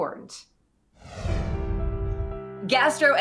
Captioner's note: swooshing